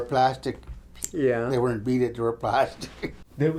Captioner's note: chuckles